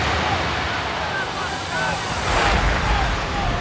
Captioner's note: wave crashing; shouting intensifies; in English